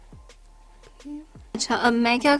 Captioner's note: hums